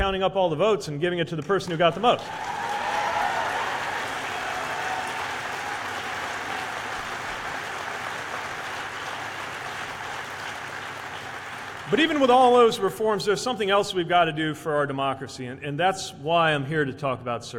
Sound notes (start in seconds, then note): 6.4 cheers/applause